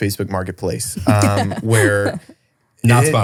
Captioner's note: laughs